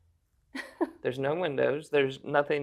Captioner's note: chuckles